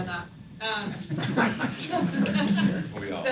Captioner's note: laughing